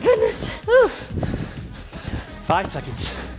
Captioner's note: breathes heavily